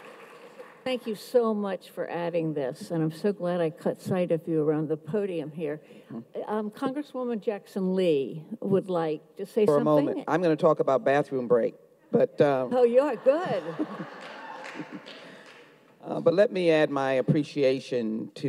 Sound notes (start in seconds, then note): 12.8 audience laughs